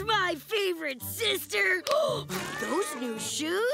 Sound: gasping

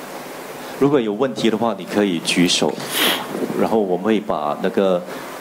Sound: speaking in foreign language

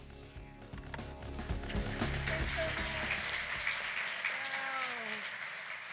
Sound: applause

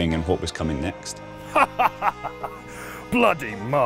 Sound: laughter

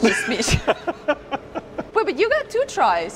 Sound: laughing

